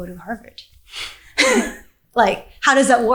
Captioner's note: both chuckling